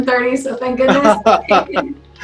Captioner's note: laughing